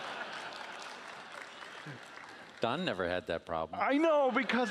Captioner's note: laughing